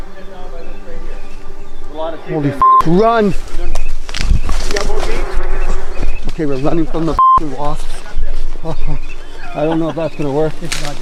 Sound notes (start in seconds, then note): 2.6 beep; 3.2 microphone rustling; 3.4 branches cracking; 7.2 beep